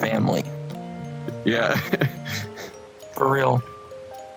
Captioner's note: giggles